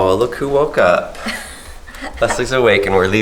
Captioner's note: laughs